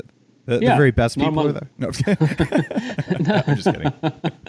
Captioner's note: both laugh